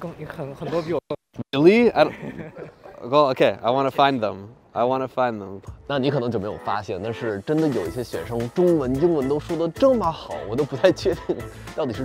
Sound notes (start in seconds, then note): 6.1 speaking in foreign language